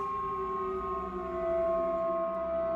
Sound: eerie noises

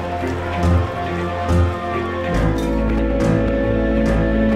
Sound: sirens whirring

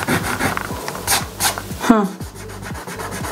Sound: palm rubbing; eraser rubbing

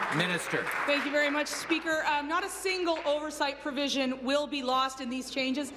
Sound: applause

